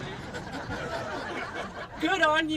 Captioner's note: laughing